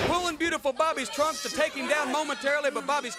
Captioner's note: crowd chatter